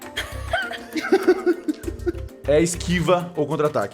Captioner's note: laughs